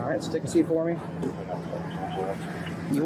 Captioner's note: radio chatter